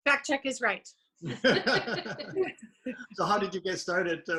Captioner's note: chuckles